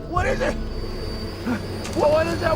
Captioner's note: breathes